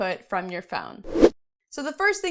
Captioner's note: air whooshing